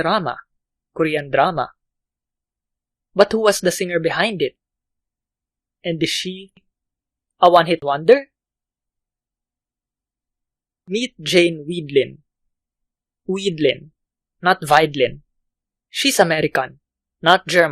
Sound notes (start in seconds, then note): 15.3 German